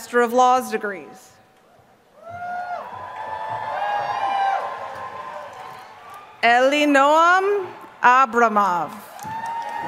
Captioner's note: applause